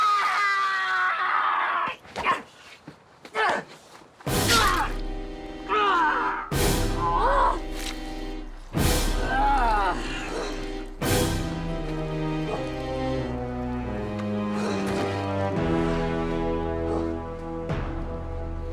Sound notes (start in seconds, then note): 0.0 Gregore screams in pain; 3.6 Gregore grunts; 5.9 dramatic music